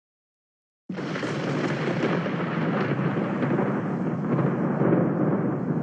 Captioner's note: thunder clap fx